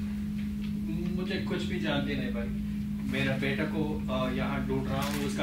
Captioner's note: speaks in foreign language